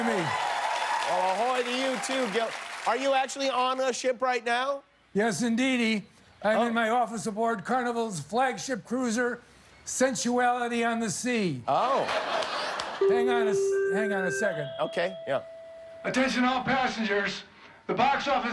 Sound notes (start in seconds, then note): 1.8 cheers and applause